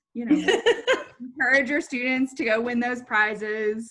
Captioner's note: laughing